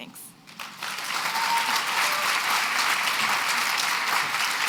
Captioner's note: applause